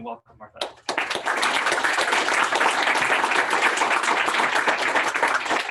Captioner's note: applause